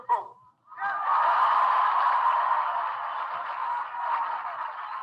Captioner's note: audience applauding